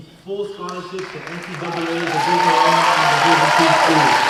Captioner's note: cheers and applause